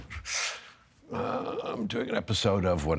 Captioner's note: inhaling sharply